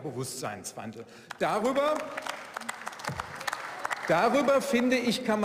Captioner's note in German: Beifall